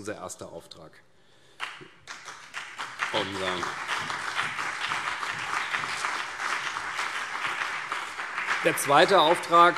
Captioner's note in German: Beifall CDU und BÜNDNIS 90/DIE GRÜNEN